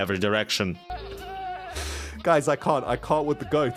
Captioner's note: many goat noises